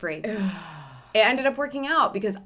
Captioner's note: groans